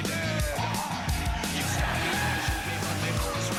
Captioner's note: tires screeching; engine revving